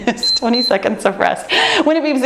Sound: timer beeps

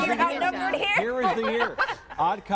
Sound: laughter

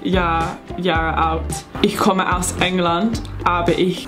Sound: speaking in foreign language

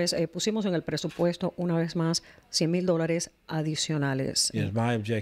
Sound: speaking spanish

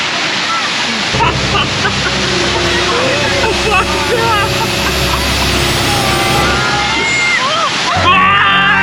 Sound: as we neared the waterfall, people began to scream

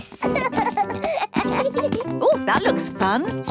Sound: both laugh

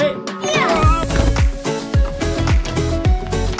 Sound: speaks Dutch; yell; upbeat music continues

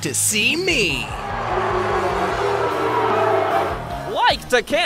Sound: audience booing

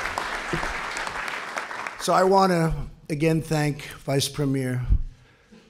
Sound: applause

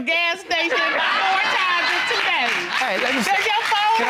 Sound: audience applauding

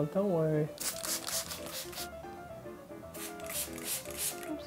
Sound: spraying

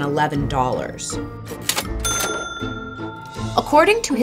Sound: cash register noise

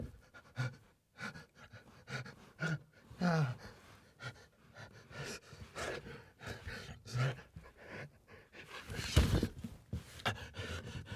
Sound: panting

